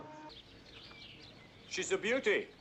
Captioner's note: birds chirping